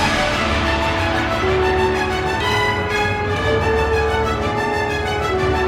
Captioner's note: heroic music; group cheering and clapping